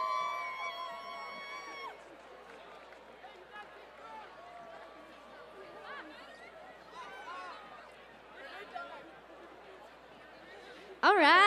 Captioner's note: cheers and applause